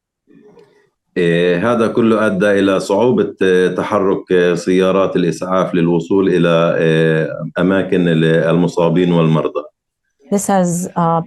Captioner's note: speaking arabic